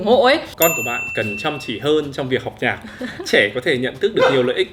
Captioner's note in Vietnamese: cười